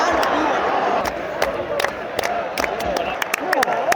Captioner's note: applause with him